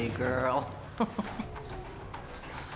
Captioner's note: chuckles